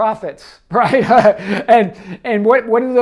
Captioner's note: laughing